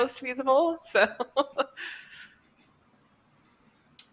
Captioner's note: laughs